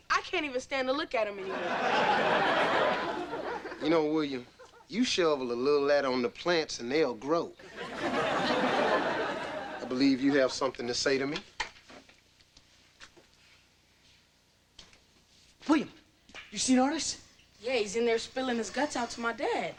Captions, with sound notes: I can't even stand to look at him anymore. (audience laughing) - You know William, you shovel a little of that on the plants and they'll grow. (audience laughing) I believe you have something to say to me. - William, you seen Artis? - Yeah, he's in there spilling his guts out to my dad.